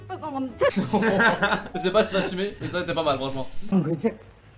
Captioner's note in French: Rires